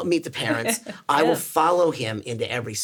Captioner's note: laughs